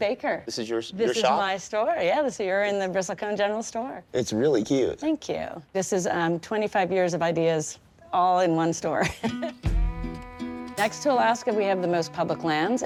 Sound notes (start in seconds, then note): 9.0 laughing